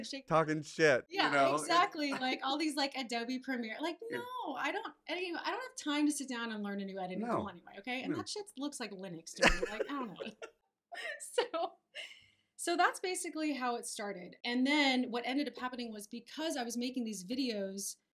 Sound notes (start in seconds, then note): 9.4 laughs